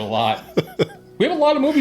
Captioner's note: laughs